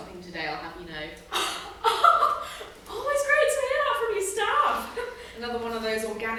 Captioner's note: laughs